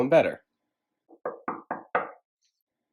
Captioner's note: knocking on door